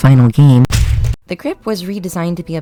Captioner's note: whack